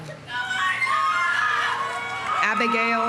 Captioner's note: audience cheering